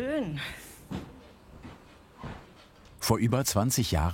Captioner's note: the wooden floor creaks